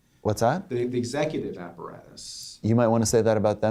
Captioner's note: voiceover